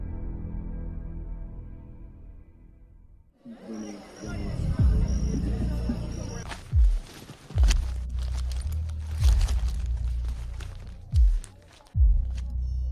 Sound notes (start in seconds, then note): 3.3 faint music; 3.4 people chattering; 6.2 objects rustling